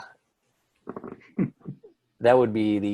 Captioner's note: man chuckles